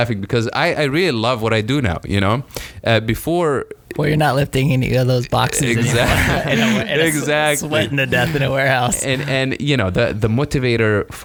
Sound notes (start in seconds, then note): 5.4 laughing